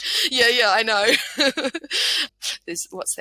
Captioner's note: laughing